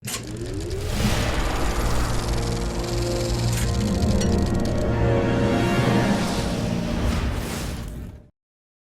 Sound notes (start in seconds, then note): 0.6 reel ticking; 3.7 intense instrumental music